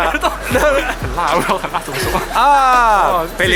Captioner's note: the friend starts laughing XD